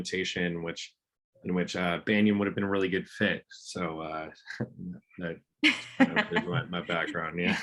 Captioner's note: laughs